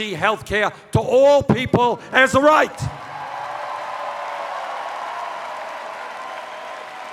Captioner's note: cheers